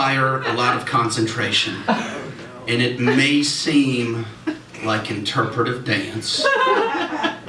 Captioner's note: laughter